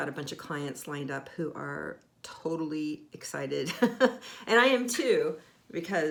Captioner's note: laughing